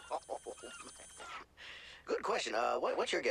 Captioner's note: laughs